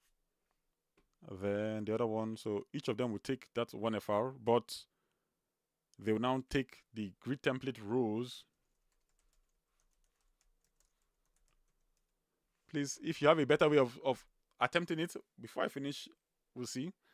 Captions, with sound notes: Then the other one, so each of them will take that one FR, but they will now take the grid template rows. (keyboard clicking) Please, if you have a better way of attempting it, before I finish, we'll see.